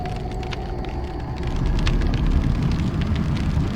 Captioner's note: fire crackling